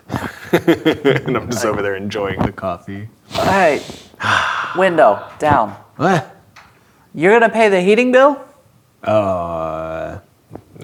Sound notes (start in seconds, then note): 1.4 laughing; 5.5 grunts, as character